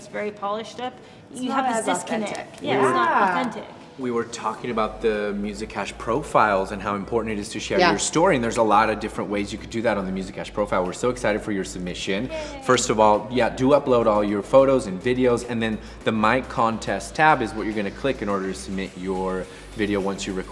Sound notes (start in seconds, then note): none